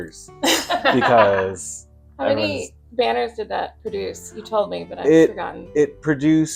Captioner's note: laughter